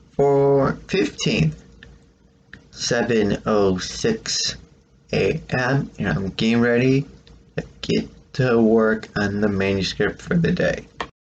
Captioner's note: click